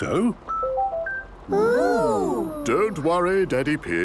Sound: car chiming

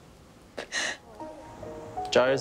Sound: cries

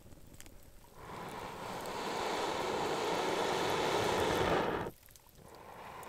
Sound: exhaling deeply

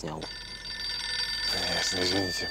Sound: phone ringing

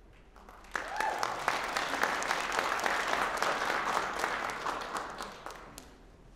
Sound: applause

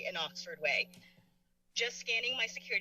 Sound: click

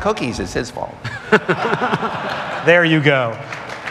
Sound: laughter

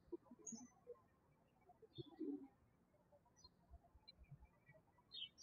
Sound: birds chirping

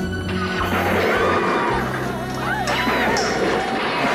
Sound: all scream

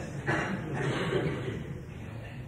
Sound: laughter

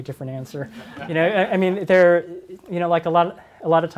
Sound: audience laughs

